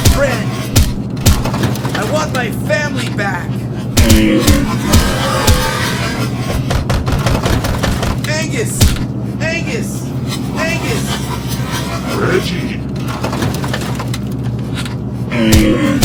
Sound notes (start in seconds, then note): 3.7 groaning; 8.6 heavy pounding